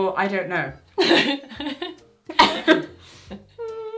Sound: both laugh

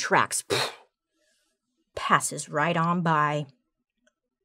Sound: exhales sharply

